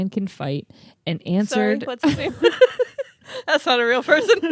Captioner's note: laugh